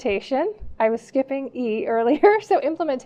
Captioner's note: laughing